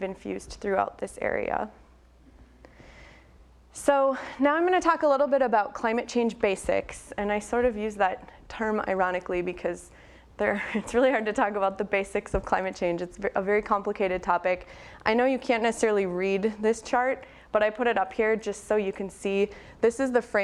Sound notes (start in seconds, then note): 10.5 laughs